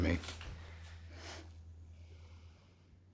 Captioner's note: laughs